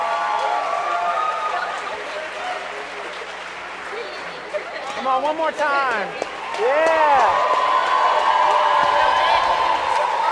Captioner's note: cheers and applause